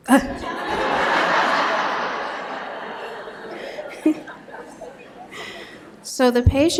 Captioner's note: laughter